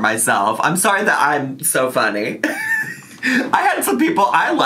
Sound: laughing

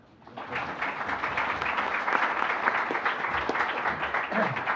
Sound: audience applauds

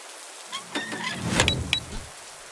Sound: impact; click click

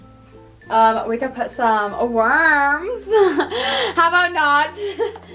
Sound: laughs

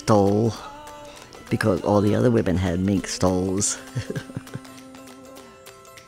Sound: laughs

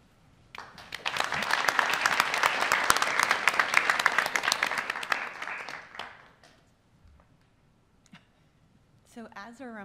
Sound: applause

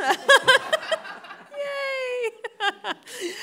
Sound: all laughing

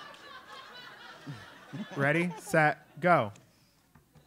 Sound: laugh

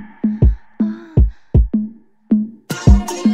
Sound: moaning

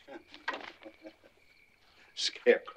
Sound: Otis chuckling

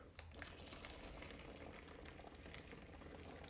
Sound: bubbling

